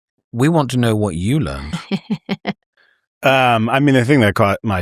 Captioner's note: laughter